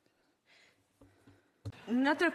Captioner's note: speaking French